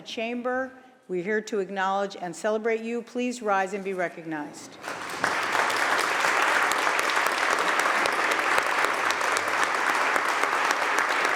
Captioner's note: applause